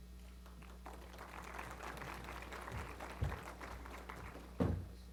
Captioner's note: applause